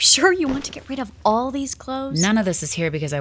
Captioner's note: sounds of clothes being tossed into pile